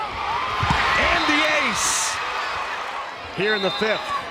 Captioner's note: crowd and players cheering